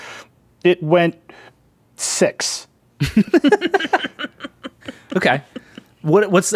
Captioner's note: laughing